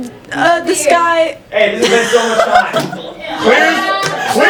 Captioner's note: laughter